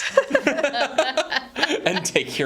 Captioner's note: hosts laughing